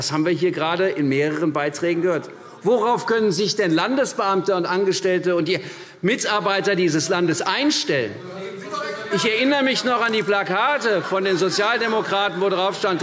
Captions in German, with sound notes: Das haben wir hier gerade in mehreren Beiträgen gehört. Worauf können sich denn Landesbeamte und Angestellte und die Mitarbeiter dieses Landes einstellen? [Zurufe DIE LINKE] Ich erinnere mich noch an die Plakate von den Sozialdemokraten auf denen